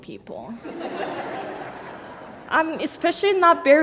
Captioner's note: laughter